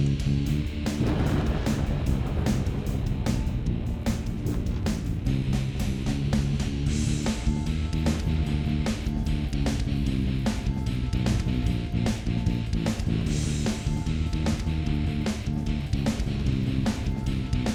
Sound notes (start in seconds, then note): 1.0 shells explode; 8.3 energetic music continues